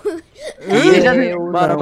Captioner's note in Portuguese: rindo